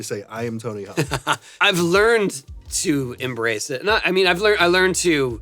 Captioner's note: laughs